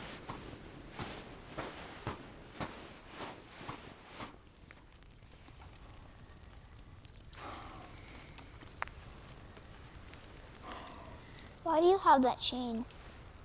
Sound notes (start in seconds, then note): 1.5 footsteps thudding; 4.5 fire crackling